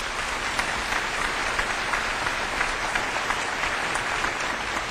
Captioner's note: applause